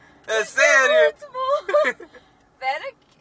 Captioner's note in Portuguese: Risos